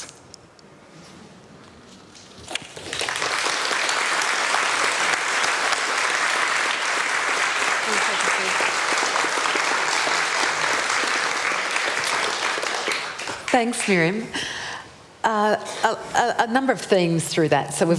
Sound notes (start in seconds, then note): 2.6 applause